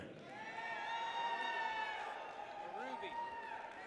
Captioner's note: people cheer